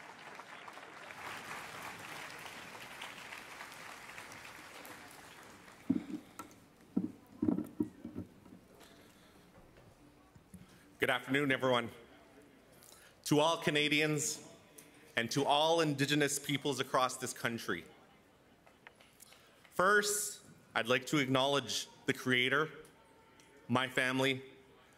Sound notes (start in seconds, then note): 5.1 cheers and Applause